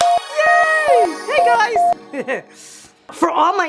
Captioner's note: chimes